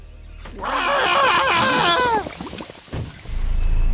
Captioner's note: Fat Tony screams and gurgles